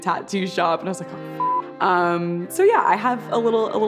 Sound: beep

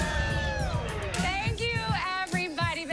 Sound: all cheering

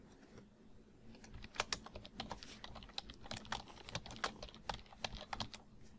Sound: typing on keyboard

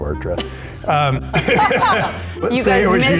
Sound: laughing

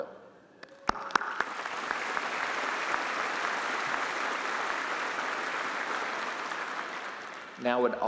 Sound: applause

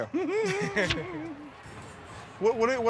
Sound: laughter

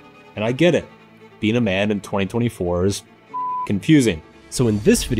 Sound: beep

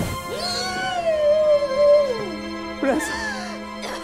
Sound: whooshing; Vanessa gasping

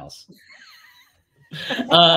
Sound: laughs

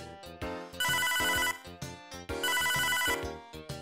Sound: ring ring

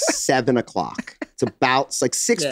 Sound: Glenn chuckles

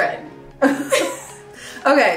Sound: laughing

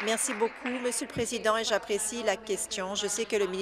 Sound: applause

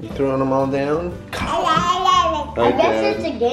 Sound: babbles

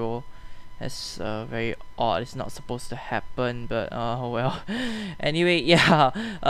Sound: nervous laughs

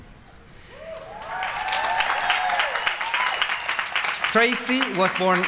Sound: applause

